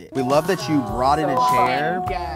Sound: beep

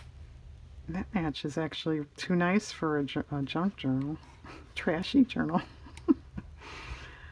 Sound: laughs

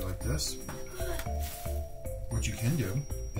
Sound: gasps

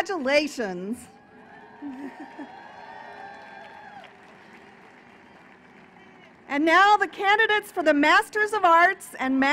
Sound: cheering and applause

